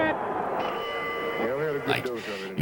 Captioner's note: bell ringing